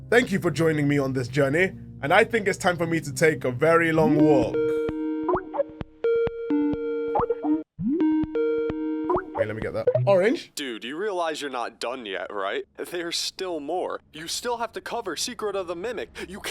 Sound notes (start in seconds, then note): 4.0 Skype call notification